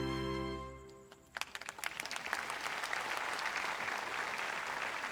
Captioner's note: audience applauds